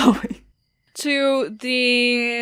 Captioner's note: laughs